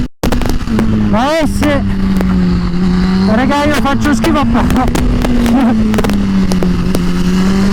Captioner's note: laughs